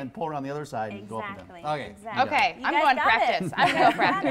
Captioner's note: LArtUGHTER